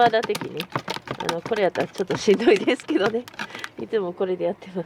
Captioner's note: laughs